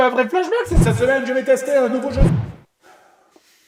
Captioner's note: echoing